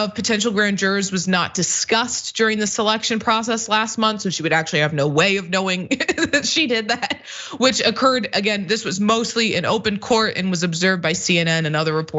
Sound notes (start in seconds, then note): 5.8 laugh